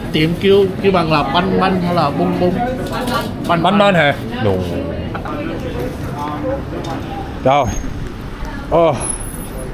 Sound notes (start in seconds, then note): 3.2 in higher tone